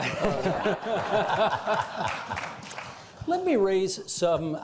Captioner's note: all laughing